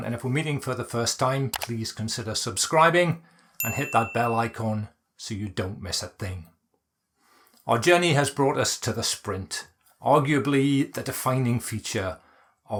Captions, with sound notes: and if we're meeting for the first time, please consider subscribing, (bell pings) and hit that bell icon, so you don't miss a thing. Our journey has brought us to The Sprint, arguably the defining feature